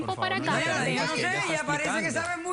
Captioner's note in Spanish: Hablan al unísono